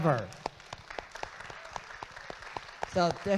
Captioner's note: audience claps